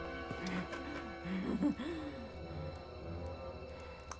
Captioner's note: vivien cackling